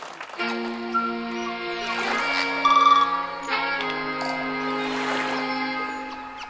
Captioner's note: applause; water lapping and birds singing